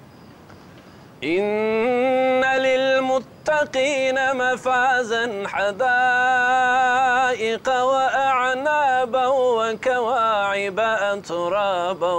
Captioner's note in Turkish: Arapça kuran okunuyor